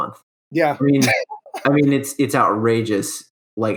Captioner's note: giggling